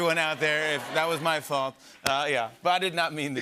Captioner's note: laughter